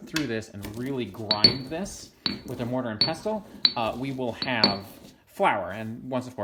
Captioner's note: crunching of roots and clinking of ceramic